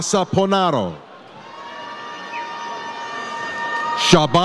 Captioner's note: audience cheers